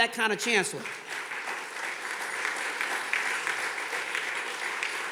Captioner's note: audience clapping